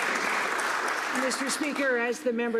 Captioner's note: some Applause